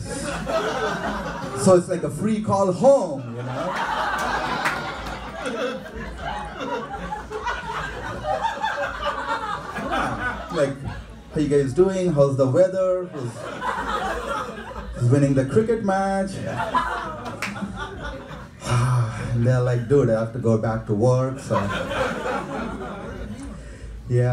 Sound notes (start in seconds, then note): 0.2 laughing; 3.4 audience laughing and clapping; 12.8 audience laughing; 18.6 sighing; 21.2 audience laughing